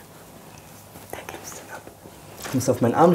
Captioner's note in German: Flüstern